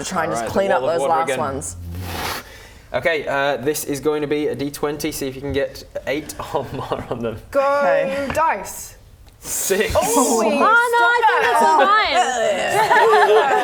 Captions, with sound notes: try and just clean up those last ones *whoosh* Okay this is going to be a d20 See if you can get 8 or more on them Go dice! 6 Holy Oh no I think that's a 9 - stop it! Yeah yeah yeah